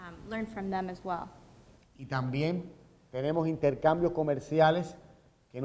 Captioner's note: speaking in Spanish